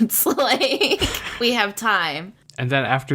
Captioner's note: laughs